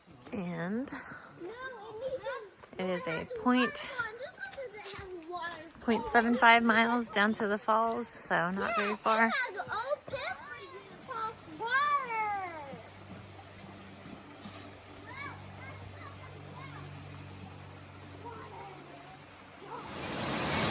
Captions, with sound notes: and it is a point 0.75 miles down to the falls so not very far *water flowing* look! water!